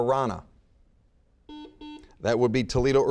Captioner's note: buzzer beeping